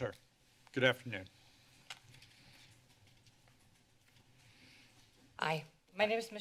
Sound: paper rustling

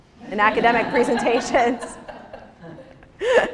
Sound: audience laughs

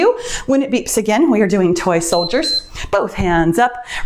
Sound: timer beeps

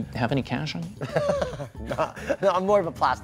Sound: laughing

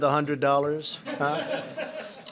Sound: laughter

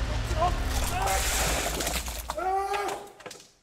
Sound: muffled screams

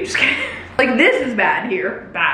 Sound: giggling

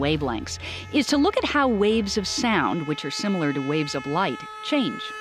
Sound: car horn changing pitch

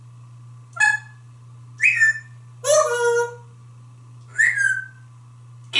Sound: whistles

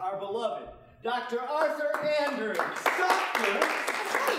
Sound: applause

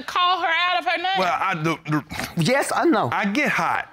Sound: stammers

